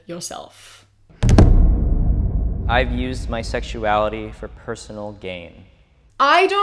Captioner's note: booming sound